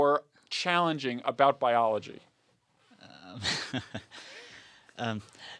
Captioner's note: laugh